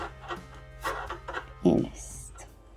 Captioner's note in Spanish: risas